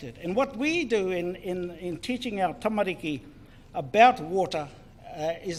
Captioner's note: speaks in foreign language